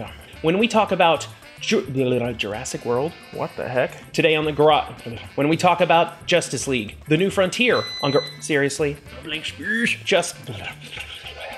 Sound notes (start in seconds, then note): 7.7 beep interrupts